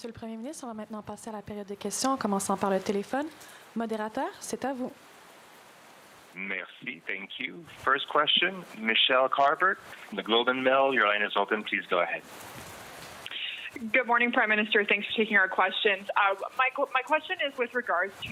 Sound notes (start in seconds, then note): 3.6 speaking french